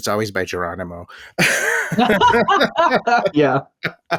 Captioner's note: laughter